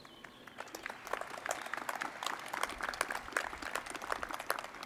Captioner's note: crowd applauding